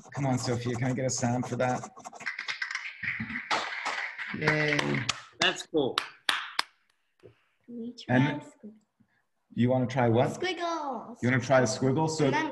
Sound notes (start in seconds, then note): 3.4 clapping; 6.9 clapping